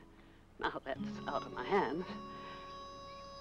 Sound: exhales

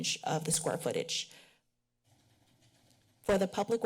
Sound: pause

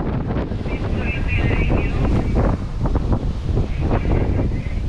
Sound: CB radio voices

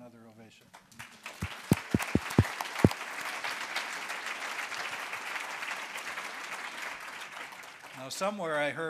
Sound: applause

